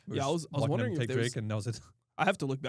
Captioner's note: laughs